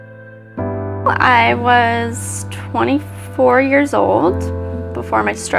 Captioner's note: voiceover